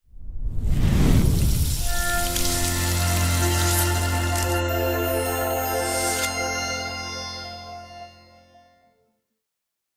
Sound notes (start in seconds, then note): 0.0 logo whooshes; 1.3 bacon sizzling; 1.7 gentle music